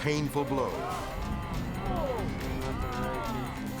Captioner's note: onlookers gasping; suspenseful music